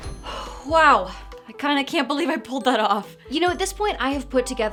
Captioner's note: sighs